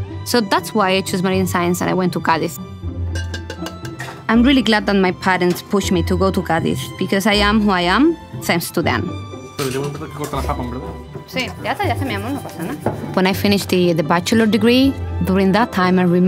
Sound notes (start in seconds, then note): 3.1 metal clanking